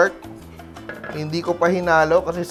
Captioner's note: rattle